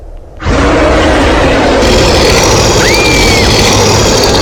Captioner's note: bear growling; girl screams